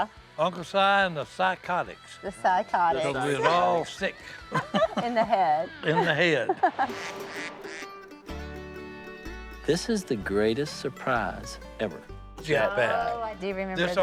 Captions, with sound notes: - Uncle Si and the Si-cotics. - The Si-cotics. - We're all sick. - In the head. - In the head. [duck quacks] [gentle music] - This is the greatest surprise ever. - Oh, I do remember this.